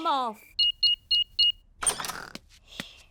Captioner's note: beeping